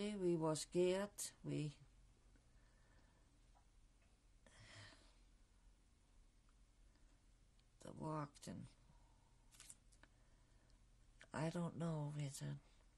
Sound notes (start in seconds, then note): 1.8 pauses for 6 seconds; 9.2 pauses for 3 seconds